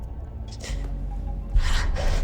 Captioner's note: gasps